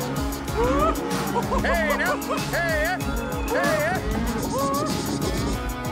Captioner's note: calling cattle